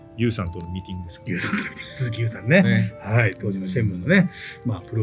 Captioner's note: laughs